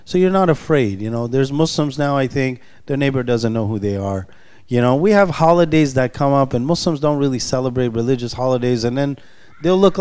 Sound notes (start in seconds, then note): none